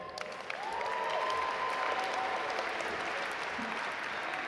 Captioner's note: audience applaud